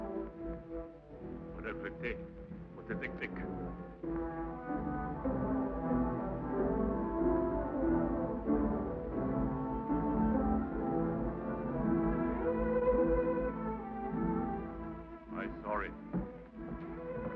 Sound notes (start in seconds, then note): 2.5 Chief speaking foreign language; 4.5 quietly dramatic music